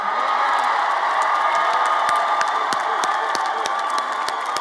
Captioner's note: everyone cheers